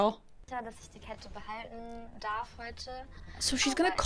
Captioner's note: speaking in German